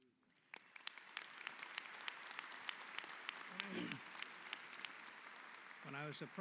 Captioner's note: applause